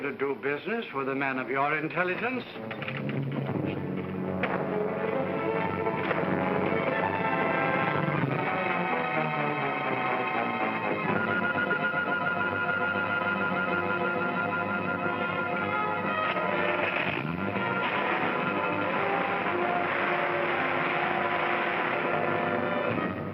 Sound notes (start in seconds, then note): 4.3 suspenseful music; 16.8 engine starts; 18.5 suspenseful music